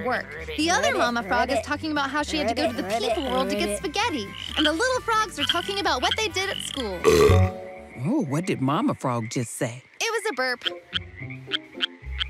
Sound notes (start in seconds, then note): 6.7 burps; 10.5 little frog croaking